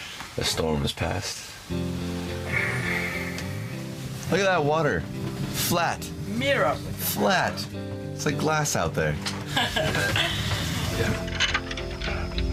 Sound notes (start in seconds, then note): 9.4 laughing